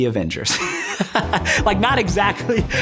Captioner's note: laughing